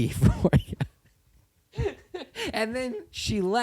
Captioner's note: laughter